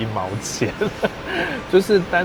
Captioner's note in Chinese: 笑聲